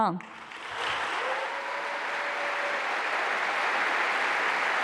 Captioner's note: applause